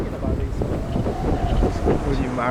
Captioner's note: wind blowing loudly